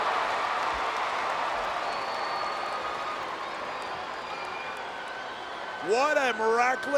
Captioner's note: applause